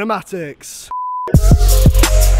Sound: beep; slow upbeat music

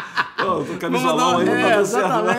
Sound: laughs

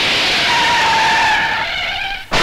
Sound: brakes squeal

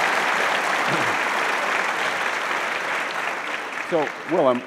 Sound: audience applauds

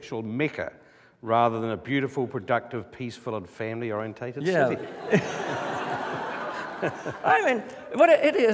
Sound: laughter

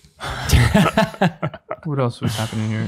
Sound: all laugh

